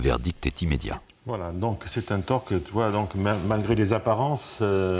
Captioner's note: French spoken audio